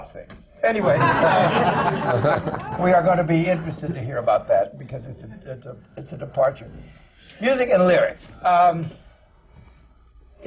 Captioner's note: laughter